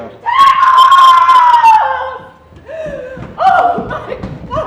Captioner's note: Lady Capulet screaming